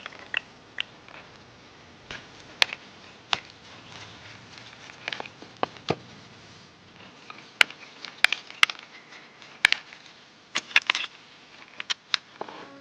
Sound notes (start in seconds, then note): 0.6 stirring sound